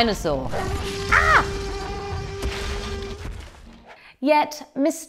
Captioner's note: dinosaur roaring